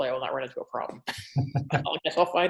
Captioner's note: laughs